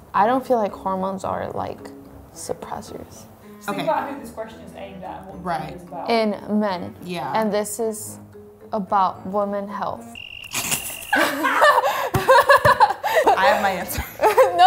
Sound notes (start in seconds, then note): 10.1 whistle blows; 11.0 all laugh